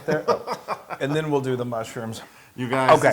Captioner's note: laugh